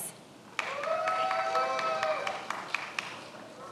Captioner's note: many applauding